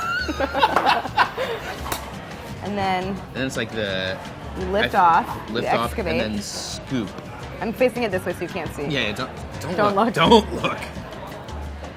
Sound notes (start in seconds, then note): 0.0 laughing; 2.0 smacking